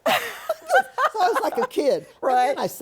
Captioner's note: laughter